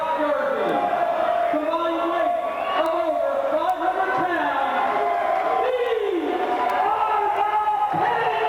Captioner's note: crowd cheering